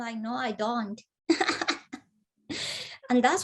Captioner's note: laughs